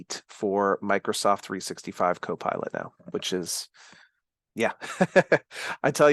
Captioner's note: chuckles